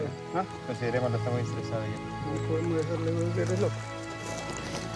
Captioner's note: Spanish language